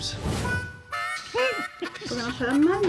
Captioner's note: giggling